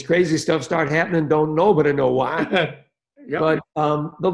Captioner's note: laughing